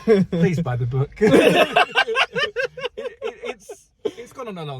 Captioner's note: laughing